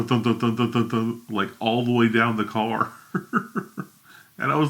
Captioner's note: laughs